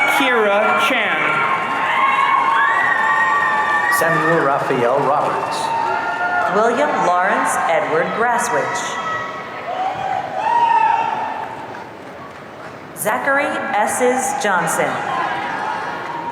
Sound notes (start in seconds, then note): 2.0 audience cheering